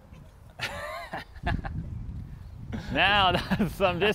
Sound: laughing

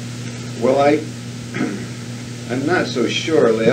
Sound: clears throat

